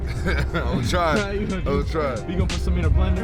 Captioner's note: laughs